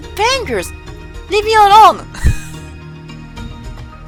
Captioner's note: small laughs